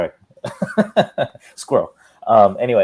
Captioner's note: giggles